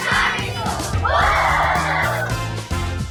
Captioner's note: all cheer